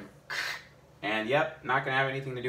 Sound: blows pressured air

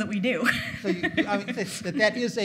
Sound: laughing

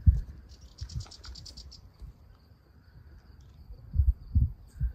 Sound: crickets chirping

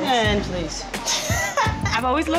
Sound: laughing

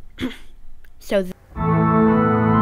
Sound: ahem

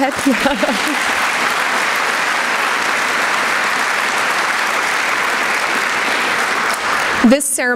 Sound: applause

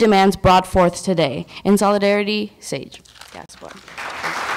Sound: applause

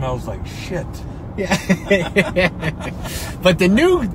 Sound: both laughing

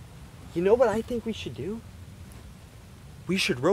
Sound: whispers

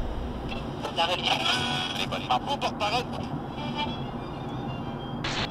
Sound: radio static and chatter

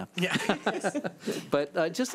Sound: laughing

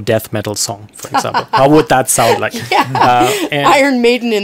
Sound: laughs

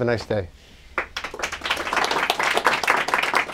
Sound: applause

